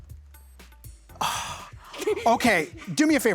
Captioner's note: sigh